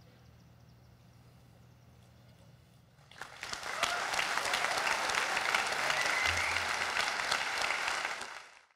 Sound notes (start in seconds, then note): 3.0 audience applauding